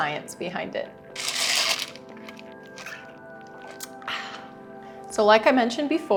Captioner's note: slurp